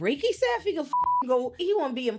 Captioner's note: beep